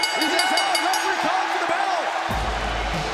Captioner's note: bell ringing